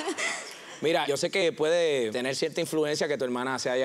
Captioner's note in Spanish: risas